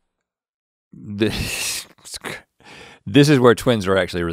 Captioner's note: chuckles